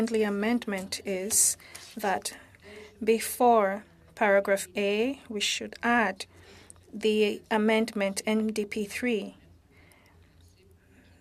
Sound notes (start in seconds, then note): 2.6 speaking French